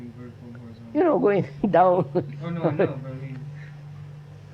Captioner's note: laughs